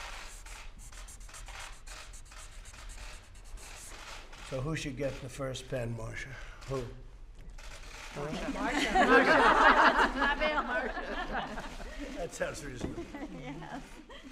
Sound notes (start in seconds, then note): 8.4 laughter